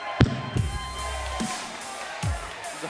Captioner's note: fans chanting